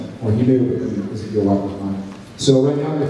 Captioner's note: none